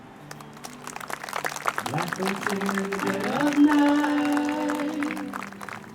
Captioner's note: attendees applauding